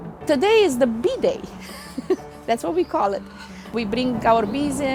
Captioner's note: laughs